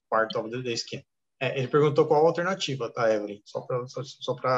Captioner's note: speaking portuguese